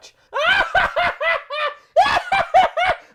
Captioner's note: laughs maniacally